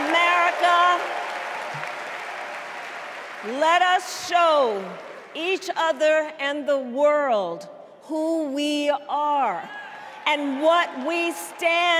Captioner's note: cheers and applause